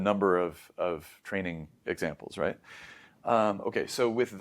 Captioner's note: inhales